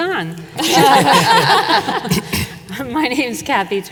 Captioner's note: panelists laughing